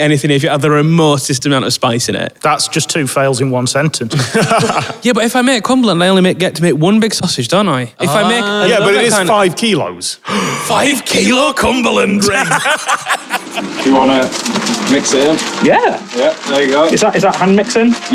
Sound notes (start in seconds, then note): 4.1 chuckles; 10.2 gasp